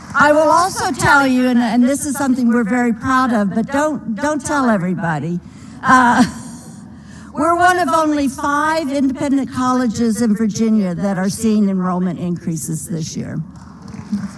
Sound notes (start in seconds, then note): 5.7 laughter; 13.5 applause